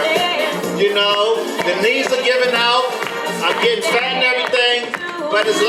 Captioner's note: audience claps to music